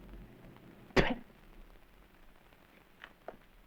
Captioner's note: spits